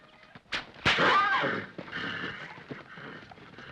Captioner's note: whip cracks; horse grunts in distress